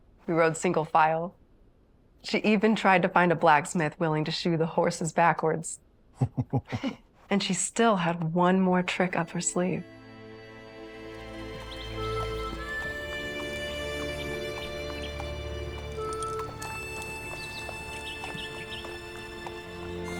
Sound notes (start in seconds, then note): 6.1 chuckling